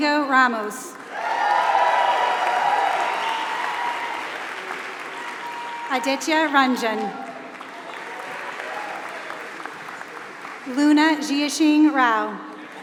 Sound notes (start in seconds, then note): 0.0 applause